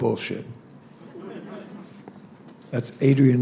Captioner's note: laughter